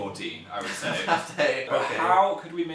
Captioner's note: laughs